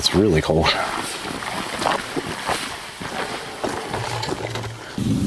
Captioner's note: footsteps crunching